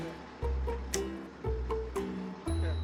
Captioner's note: snap